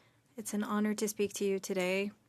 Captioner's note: speaking French